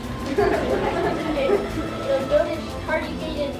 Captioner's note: giggling